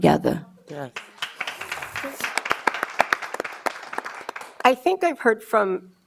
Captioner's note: audience applause